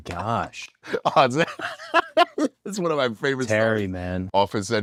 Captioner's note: laugh